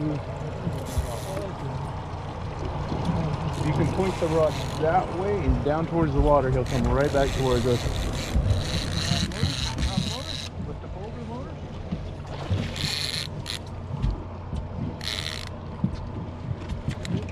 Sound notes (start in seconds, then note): 8.5 reel cranking; 11.4 fish splashing; 14.9 reel cranking